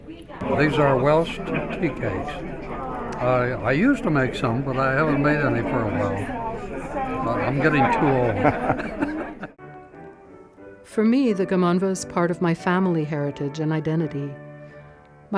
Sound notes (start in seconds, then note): 10.4 laughs